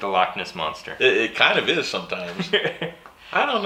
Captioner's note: laughing